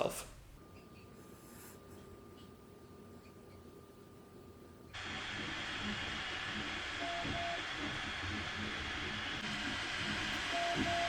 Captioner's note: noises of fans blowing air and stepper motors moving